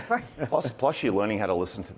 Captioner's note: chuckling